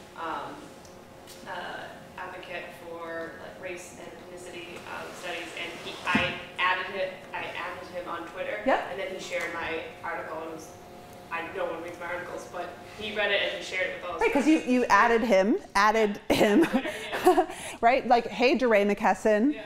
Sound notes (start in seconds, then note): 16.3 chuckles